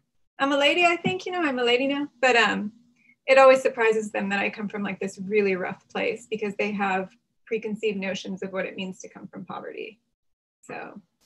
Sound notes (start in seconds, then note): none